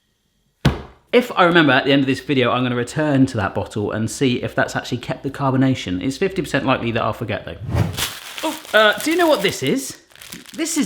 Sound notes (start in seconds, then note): 0.6 bangs table; 7.8 plastic rustling